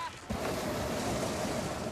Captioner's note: flame whooshing